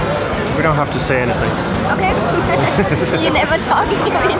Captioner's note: laughs